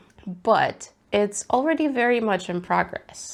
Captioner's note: none